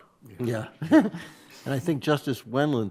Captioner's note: justices laugh